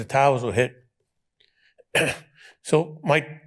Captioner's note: clears throat